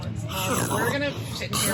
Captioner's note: slurping sounds